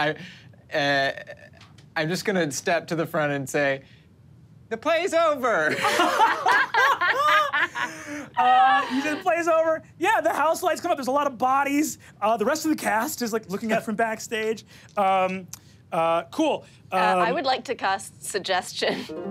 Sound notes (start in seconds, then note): 5.8 laughs